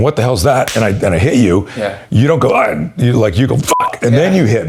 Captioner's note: beep